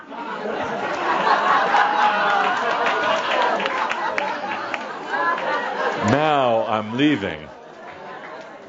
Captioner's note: laughter and a few claps